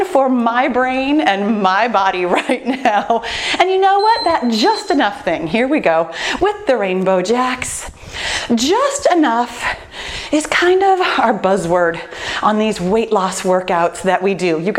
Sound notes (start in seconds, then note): 2.2 laughs; 3.9 timer beeping